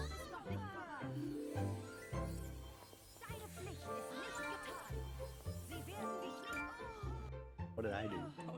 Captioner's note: none